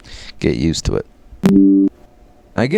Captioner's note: computer noise